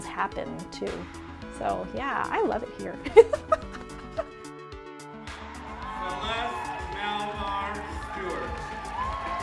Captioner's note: laughter; cheers and applause